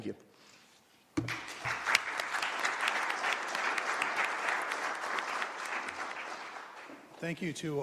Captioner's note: applause